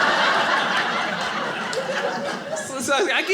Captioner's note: audience laughing